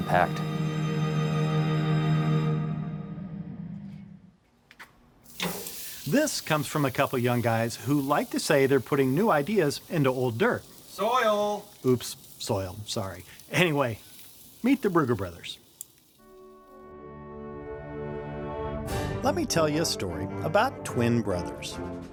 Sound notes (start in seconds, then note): 0.0 gentle music; 4.5 steak sizzles